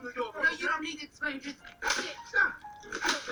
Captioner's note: whipping sounds